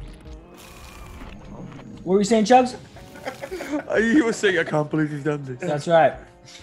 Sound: laugh

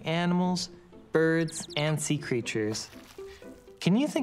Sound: birds chirping

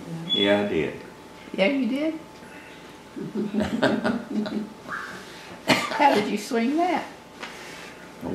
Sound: laughter

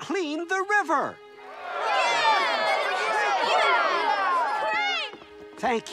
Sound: cheering

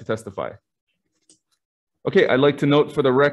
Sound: silence

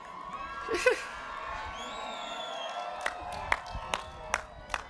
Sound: cheering

